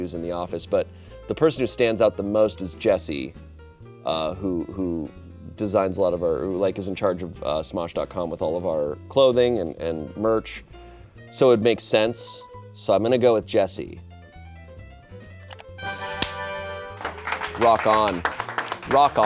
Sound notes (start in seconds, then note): 15.9 horn sound; 16.8 clapping in background